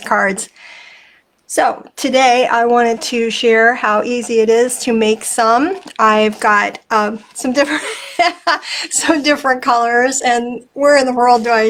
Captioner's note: laughing